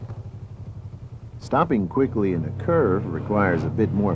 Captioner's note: voiceover